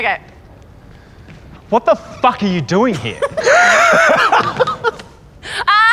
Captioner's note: laughing